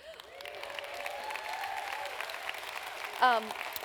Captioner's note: applause